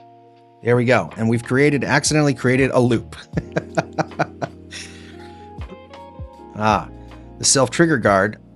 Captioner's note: laughs